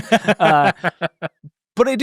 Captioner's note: laughing